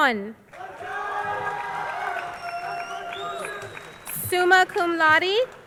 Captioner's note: crowd cheering